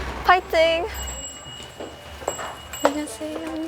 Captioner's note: ding